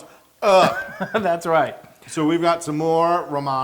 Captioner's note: laugh